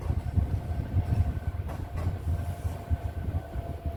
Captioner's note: train rattling